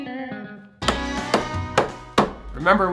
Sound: loud banging

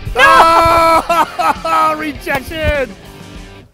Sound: laughing

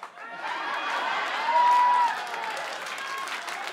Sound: laughter; cheers and applause

